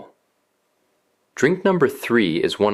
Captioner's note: pause